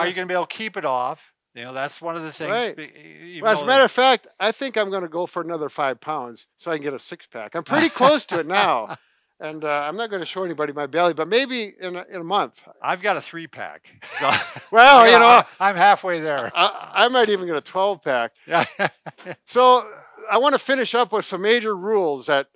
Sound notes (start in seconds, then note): 7.6 laughs; 14.0 laughing; 18.5 laughs